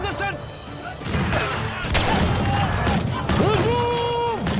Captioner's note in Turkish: Silah sesleri